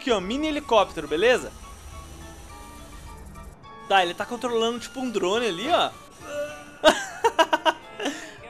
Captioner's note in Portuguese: Risos